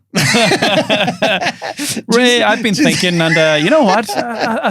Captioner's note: both laughing